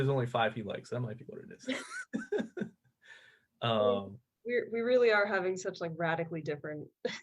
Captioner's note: laughter